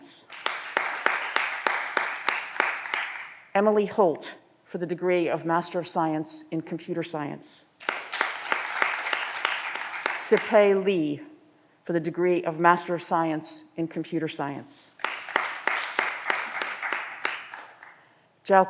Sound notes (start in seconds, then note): 0.3 audience applause; 7.8 audience applause; 15.0 audience applause